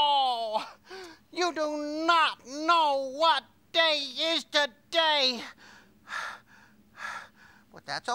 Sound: panting

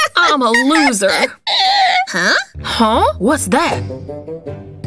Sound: uncontrollable laughter

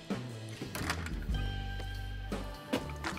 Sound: door opens

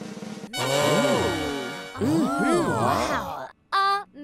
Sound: drumroll; oohs and aahs

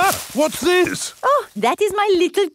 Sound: exclaims

